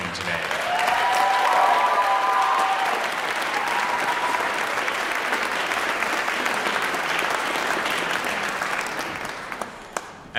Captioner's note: cheering and Applause